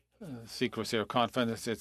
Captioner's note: speaking French